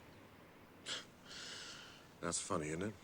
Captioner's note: scoffs